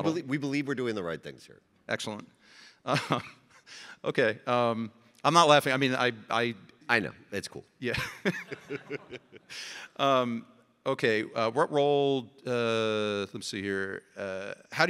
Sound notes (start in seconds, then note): 2.8 chuckling; 7.9 laughing